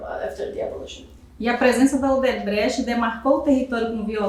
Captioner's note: speaking portuguese